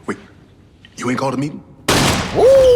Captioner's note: gunshot